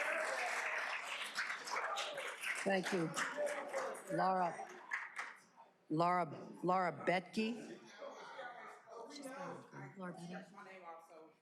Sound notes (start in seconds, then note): 4.7 cheers and applause